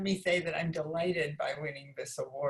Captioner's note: none